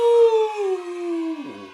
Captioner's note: happy smol children scream in the background